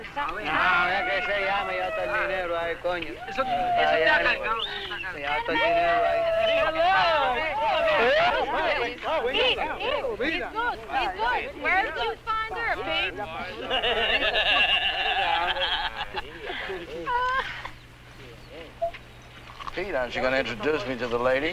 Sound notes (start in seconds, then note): 0.1 men speaking in Spanish; 6.7 people chattering; 13.6 Pete laughing like a hyena